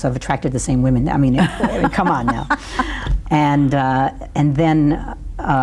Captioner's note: laughs